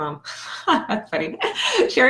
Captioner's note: laughing